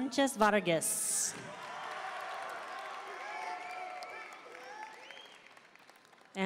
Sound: audience cheering and applauding

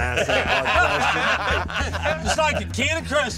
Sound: laughter

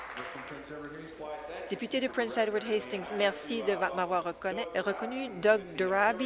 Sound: applause

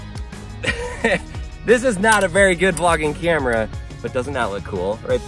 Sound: laughs

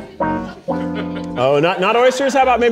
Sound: audience laughing

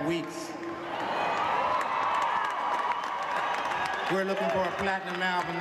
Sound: audience cheering

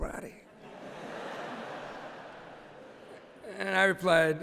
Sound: laughter

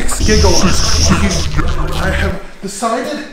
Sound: demonic garbling

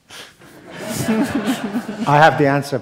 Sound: laughter

